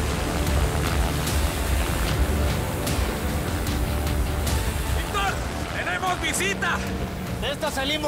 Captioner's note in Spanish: Ruido del helicóptero